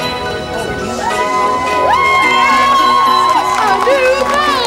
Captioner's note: elves cheering